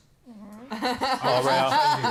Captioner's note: laughter